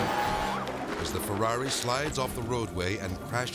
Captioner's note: yells